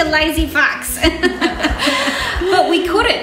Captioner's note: laughter